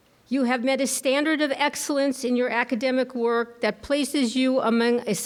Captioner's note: none